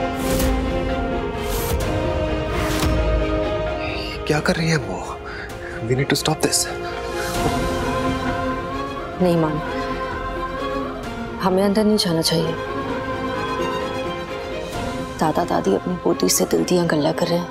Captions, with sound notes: What is she doing? We need to stop this. [emotional vocalising] No, Maan. We should not interfere. Grandparents are sharing matters of the heart with their granddaughter.